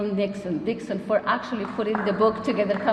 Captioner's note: applause